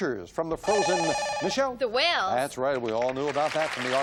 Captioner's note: beep